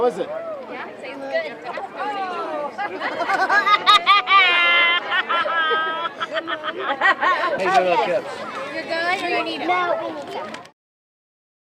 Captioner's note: kid laughing